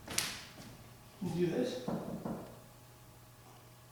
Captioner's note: knocking